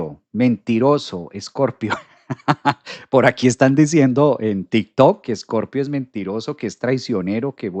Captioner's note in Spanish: risas